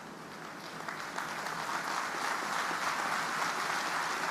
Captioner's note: audience applauding